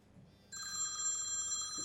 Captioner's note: phone rings